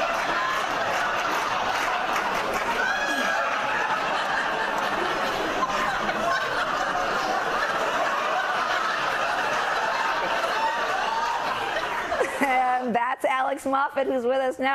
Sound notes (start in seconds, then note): 7.6 laughter